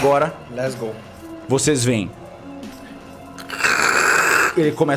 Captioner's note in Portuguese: crhck